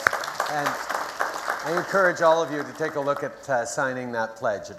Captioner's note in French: Applaudissements